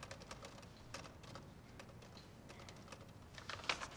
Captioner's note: stenograph clacking